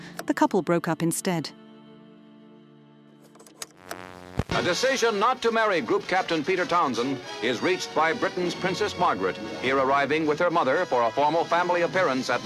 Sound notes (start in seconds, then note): 3.7 slide clunking